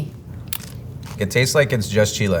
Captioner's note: mouths crunching